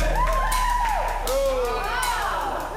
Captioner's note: cheering